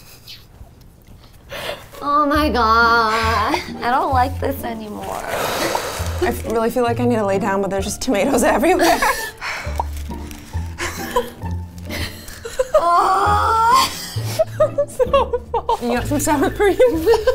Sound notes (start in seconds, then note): 0.1 giggling; 5.2 sighing; 9.7 sighing; 12.6 groaning